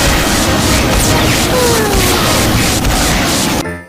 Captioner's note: sigh